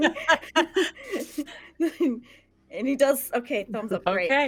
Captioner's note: everyone laughs